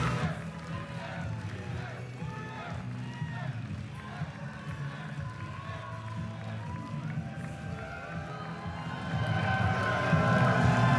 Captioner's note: crowd din